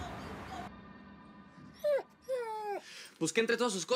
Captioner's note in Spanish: gemidos del perro